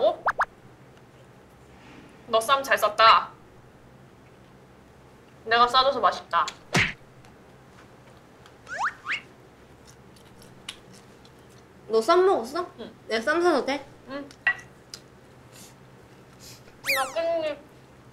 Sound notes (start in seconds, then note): 6.7 thud